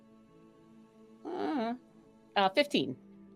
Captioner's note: groans